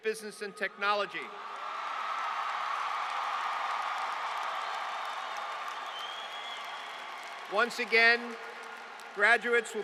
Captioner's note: applause